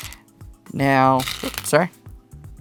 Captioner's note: stones rattling